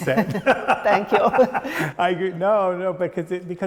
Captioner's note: laughing; laughs